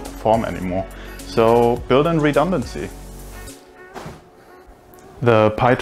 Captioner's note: coat whooshing